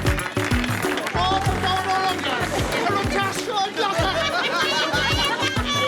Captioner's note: celebratory chatter